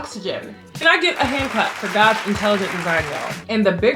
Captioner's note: claps